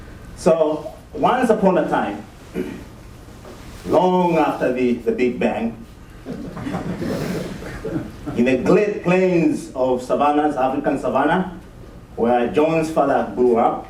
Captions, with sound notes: So once upon a time, long after the Big Bang... [ Laughter ] ...in the great plains of savanna, African savanna, where John's father grew up